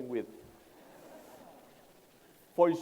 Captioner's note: laughter